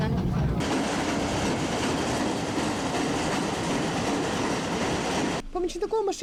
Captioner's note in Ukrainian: Чути звуки потяга